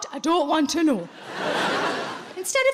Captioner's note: audience laughing